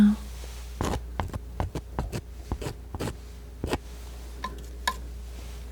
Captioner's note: scissors snipping